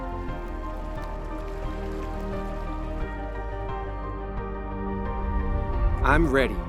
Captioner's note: water burbling; ghostly whooshing